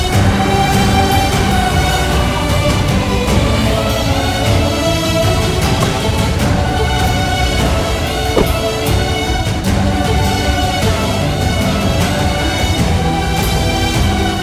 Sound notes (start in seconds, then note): 5.8 Car door opens; 8.3 Car door closes